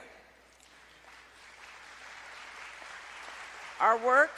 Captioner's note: applause